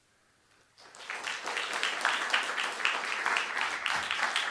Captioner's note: applause